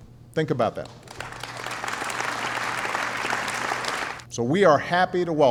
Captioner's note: applause